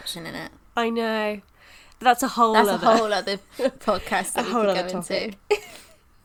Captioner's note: laughing